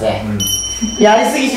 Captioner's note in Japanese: チリーン